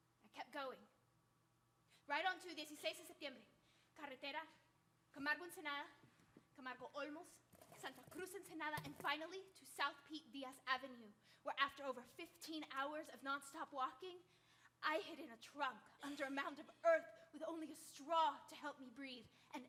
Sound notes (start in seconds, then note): 1.7 speaking Spanish; 4.0 speaking Spanish